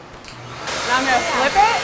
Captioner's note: vacuum turns on and operates